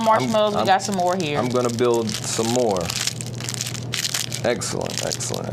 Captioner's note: wrapper scrunching